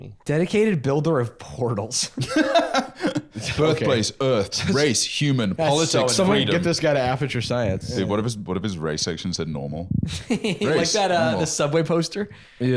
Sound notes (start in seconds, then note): 2.2 laughs